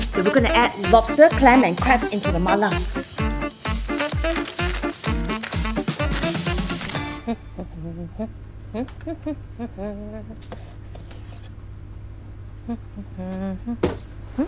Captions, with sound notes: We're going to add lobster Clam and Crabs into the Mala. (humming)